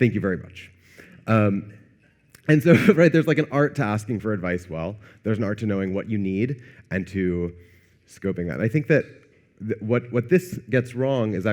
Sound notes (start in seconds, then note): 2.7 chuckles